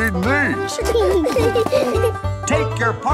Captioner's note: laughing